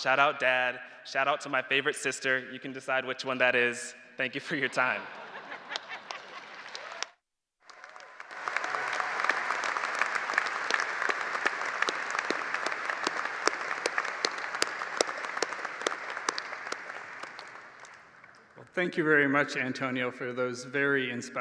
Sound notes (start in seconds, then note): 10.1 applause